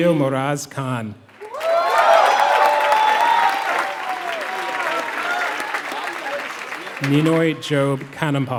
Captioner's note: applause